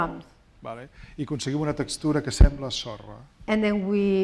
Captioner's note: speaking spanish